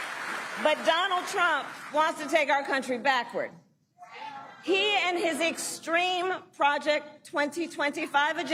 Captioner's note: applause